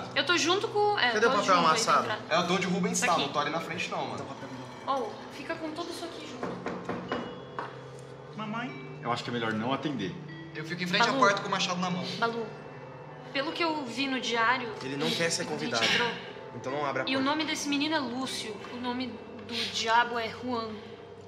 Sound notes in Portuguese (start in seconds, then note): 6.3 batida na porta